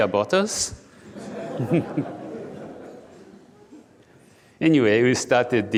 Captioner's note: audience laughing